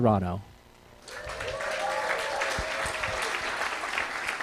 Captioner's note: cheering, applause